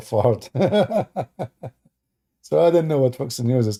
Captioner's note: Ketawa